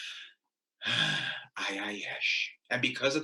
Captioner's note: deep sigh